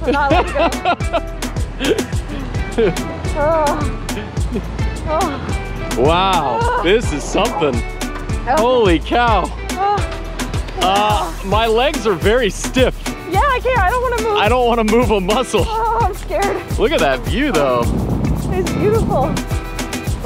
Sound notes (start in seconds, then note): 0.0 laughing; 3.6 sighing; 10.0 sighing